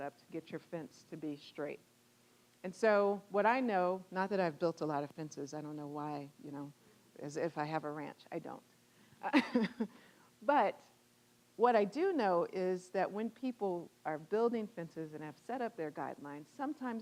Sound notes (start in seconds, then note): 9.3 laughing